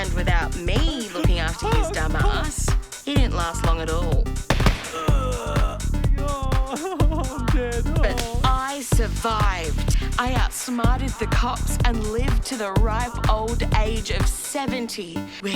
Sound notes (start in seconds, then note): 4.5 bang bang; 4.8 groans